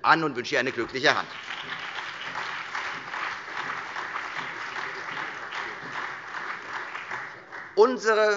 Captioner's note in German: Beifall Freie Demokraten, CDU, BÜNDNIS 90/DIE GRÜNEN, SPD und DIE LINKE